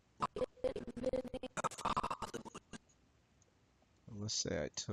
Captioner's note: audio skipping